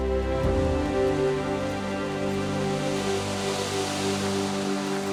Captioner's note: waves whooshing